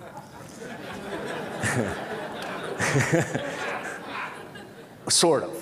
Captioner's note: Laughter; 笑聲